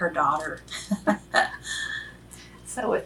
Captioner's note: laughs